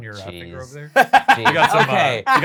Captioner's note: laughing